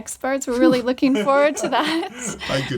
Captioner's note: laughing